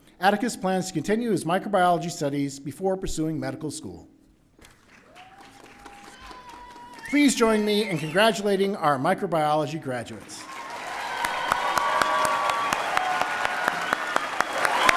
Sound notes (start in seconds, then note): 5.0 audience cheering; 10.3 audience applauding and cheering